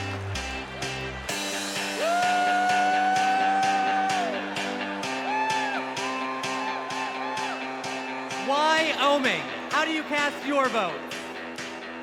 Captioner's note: cheers and applause